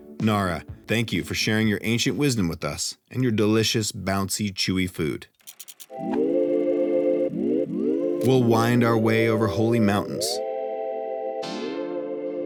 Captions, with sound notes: Nara, thank you for sharing your ancient wisdom with us and your delicious, bouncy, chewy food. (film reel whirring) We'll wind our way over holy mountains,